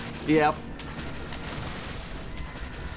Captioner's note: splashing; body part splash; slow splashing